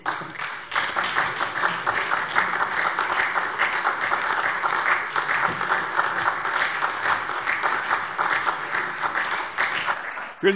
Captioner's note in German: Beifall SPD